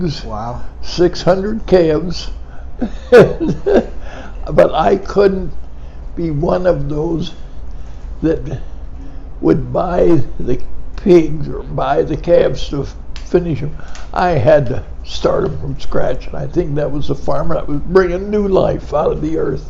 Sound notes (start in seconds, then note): 2.8 chuckles